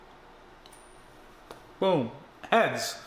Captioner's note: soft clinking